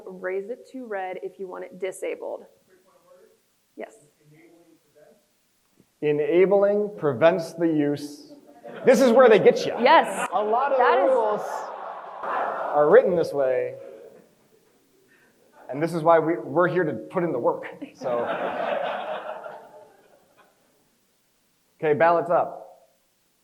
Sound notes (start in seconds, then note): 8.6 crowd chuckles; 18.0 crowd chuckles